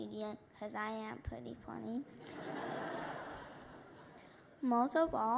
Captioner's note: laughter